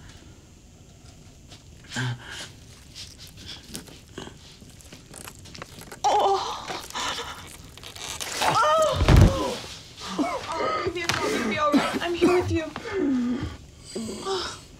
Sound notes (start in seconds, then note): 8.3 cries out; 10.1 Jesse coughs and gasps for air